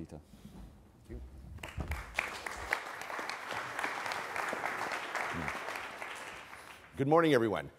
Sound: applause

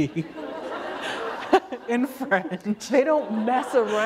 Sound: laughter

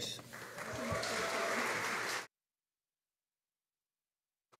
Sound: audience applauding

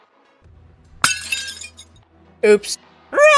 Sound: shattering

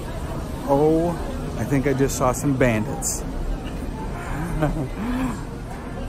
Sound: chuckling

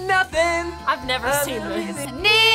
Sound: laughs

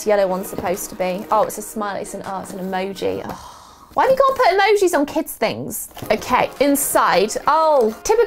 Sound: disgusted sigh

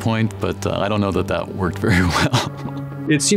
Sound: laughs

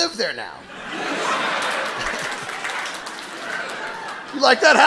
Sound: audience laughing

